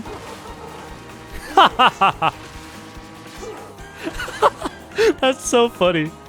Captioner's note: laughs